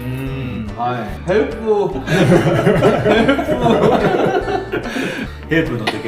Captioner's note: laughs